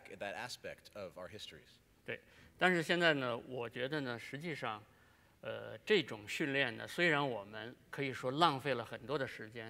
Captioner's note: speaking in Chinese